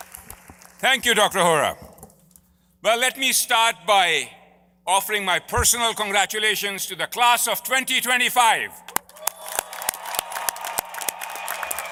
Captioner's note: applause